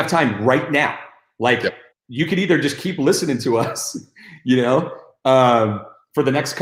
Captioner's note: chuckles